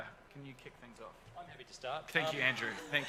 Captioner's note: crowd laughs